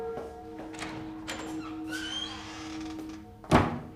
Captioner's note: door clicking